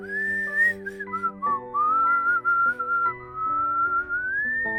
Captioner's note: narrator whistling